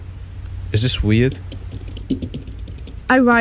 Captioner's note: we hear typing